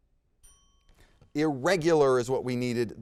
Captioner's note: bell dings